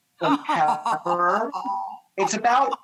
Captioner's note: Rachael laughing